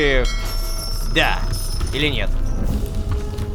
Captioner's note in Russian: Звук корабельного колокола